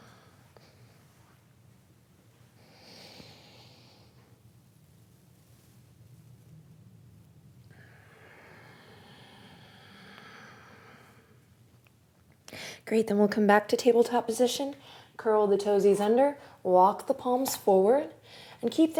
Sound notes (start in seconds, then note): 0.2 exhales; 3.1 inhales; 7.8 exhales